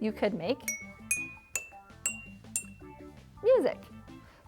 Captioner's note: jars tinking